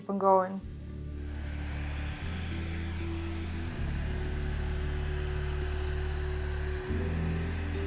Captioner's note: gentle bright music; blower buzzing